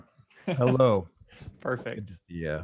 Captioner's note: laughing